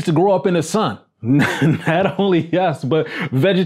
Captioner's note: laughs